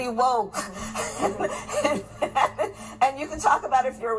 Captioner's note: laughing